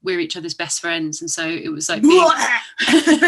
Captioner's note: laughter